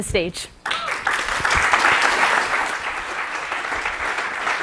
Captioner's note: applause